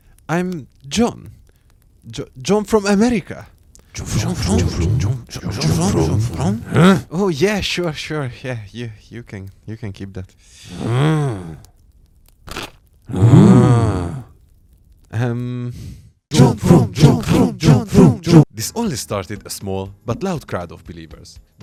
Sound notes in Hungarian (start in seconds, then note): 6.5 Dühös morgás 2; 10.7 Kíváncsi morgás; 13.0 Finom morgás